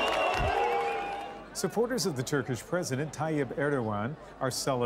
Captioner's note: cheers and Applause